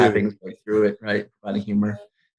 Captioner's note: laughing